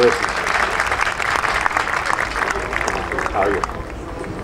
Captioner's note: audience applauding